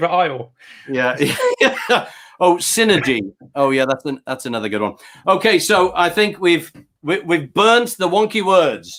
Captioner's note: laughs